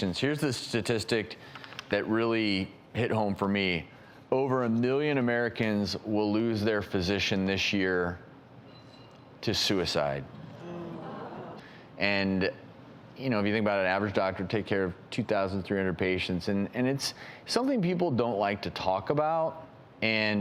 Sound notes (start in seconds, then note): 10.3 audience gasps